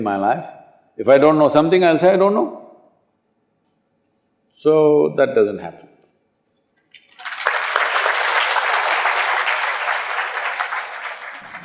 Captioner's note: applause